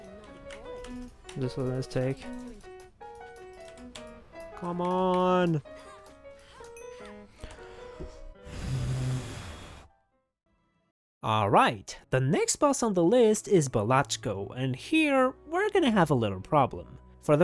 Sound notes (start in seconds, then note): 8.5 phew